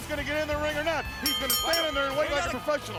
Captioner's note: bell ringing